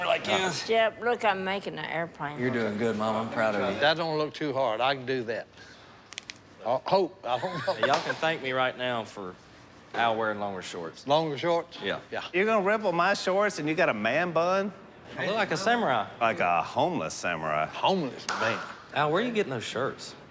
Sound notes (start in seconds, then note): 6.0 cracking